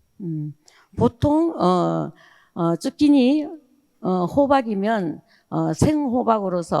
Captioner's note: speaking in foreign language